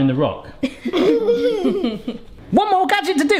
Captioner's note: laughing